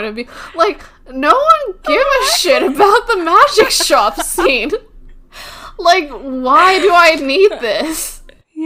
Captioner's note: laughs; laughing